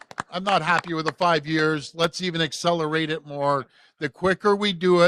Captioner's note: applause